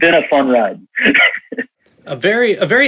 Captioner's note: laughs